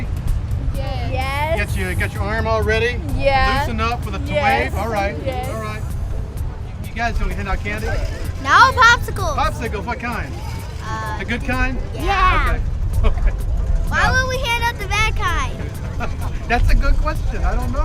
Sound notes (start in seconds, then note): 13.0 laughing